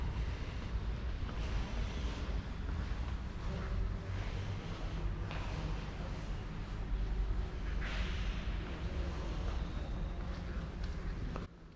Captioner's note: whispering